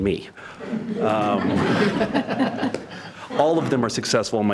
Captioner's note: members laughing